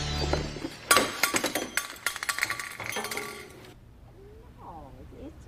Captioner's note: flashlight clattering